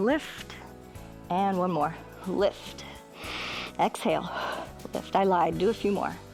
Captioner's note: inhales